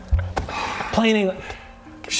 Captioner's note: sigh